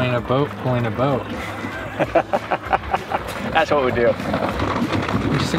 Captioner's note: laughs